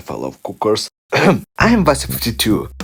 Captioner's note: clears throat